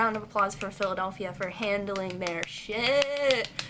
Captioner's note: clapping